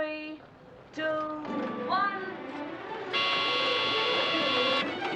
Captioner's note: horn honking